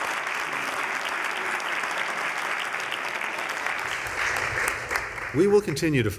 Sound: cheers

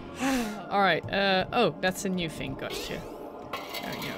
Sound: sighs

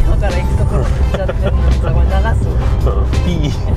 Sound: laughter

